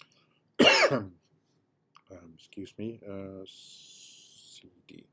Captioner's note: coughs